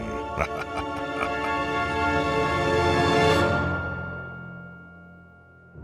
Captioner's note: narrator laughing ominously